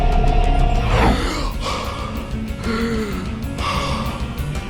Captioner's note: whirring; gasping